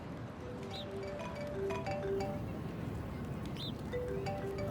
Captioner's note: phone rings